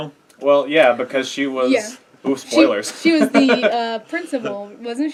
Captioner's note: laugh